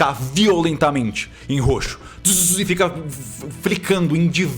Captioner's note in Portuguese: barulho de estática